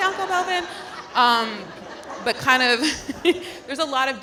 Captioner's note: audience laughing